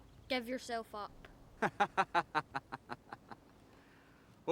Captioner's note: Eric laughs